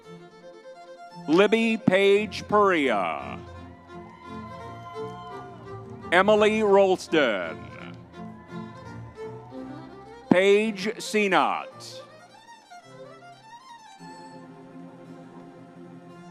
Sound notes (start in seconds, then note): 4.4 crowd cheering; 8.3 crowd cheering